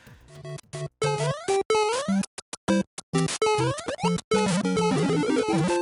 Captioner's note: Super Mario Bros. sounds